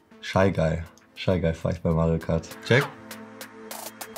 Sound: speaking foreign language; cheery upbeat music

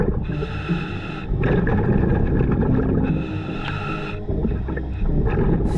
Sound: continuous heavy breathing through mask; continuous water bubbling

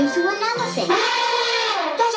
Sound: elephant trumpets

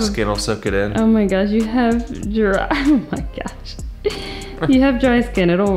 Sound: laughs

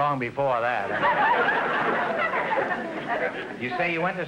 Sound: audience laughter

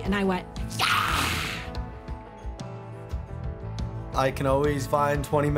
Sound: imitating surprise

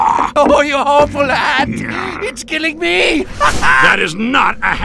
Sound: laugh

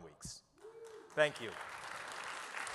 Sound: audience claps

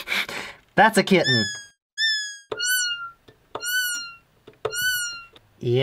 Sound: plays high-pitched kitten noises

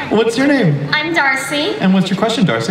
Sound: voiceover

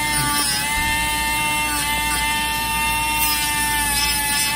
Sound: coughs; machine whirring

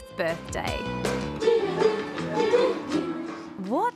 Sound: kids hum btn theme

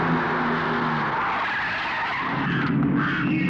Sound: brakes squeal

